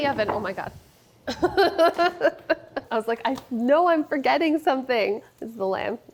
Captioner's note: laughs